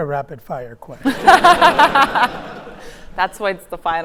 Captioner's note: audience laughing